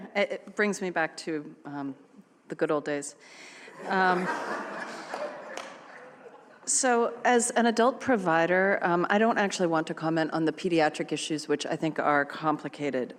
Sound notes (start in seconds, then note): 3.7 laughter